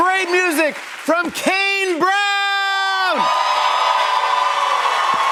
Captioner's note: cheers and applause